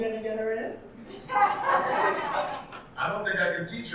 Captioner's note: audience laughing